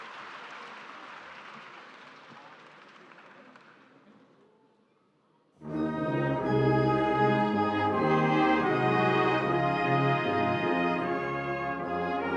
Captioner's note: applause